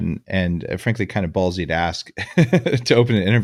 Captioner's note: laughs